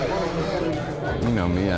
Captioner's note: chatter continues